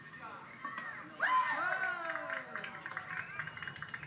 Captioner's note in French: Acclamation provenant de la télévision; bruit de stylo